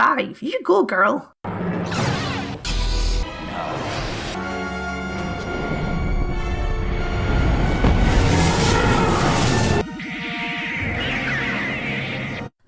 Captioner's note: death noises